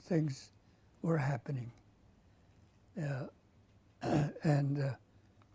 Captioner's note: pauses for 3 seconds